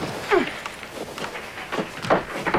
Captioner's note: grunt of effort